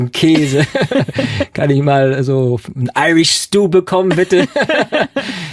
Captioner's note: laughing